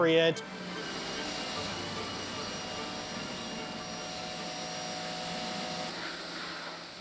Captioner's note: intense orchestra music; sprayer hissing